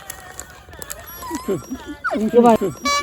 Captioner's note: howling